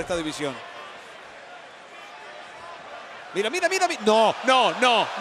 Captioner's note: applause